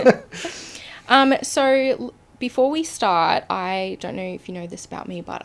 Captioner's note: both laughing